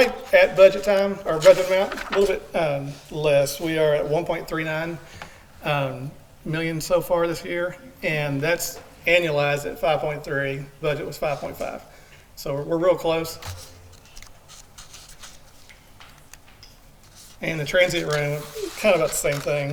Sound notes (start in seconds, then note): none